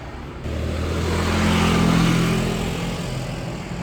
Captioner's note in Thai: เสียงรถวิ่ง